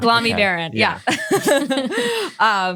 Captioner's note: all laugh